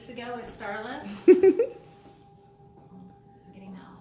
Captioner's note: giggling